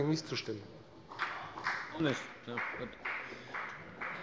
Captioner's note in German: Beifall des Abg